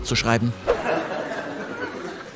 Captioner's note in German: Lachen